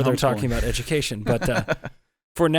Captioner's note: laughs